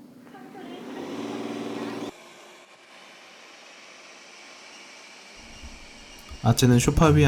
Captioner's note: sound of vacuum cleaner running